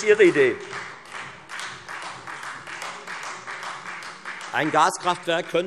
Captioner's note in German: Beifall Freie Demokraten